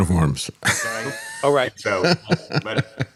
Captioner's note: laughs